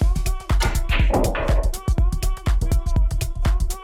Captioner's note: balls clacking